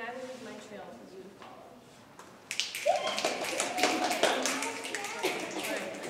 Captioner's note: audience snapping